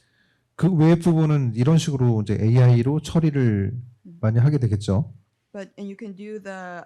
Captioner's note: speaking korean